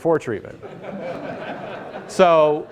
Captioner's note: laughter